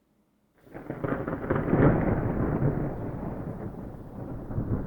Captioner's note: thunder rumbling